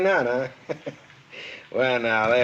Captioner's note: chuckles